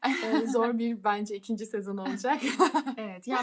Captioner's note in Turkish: kahkaha